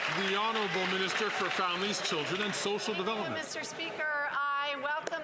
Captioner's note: some Applause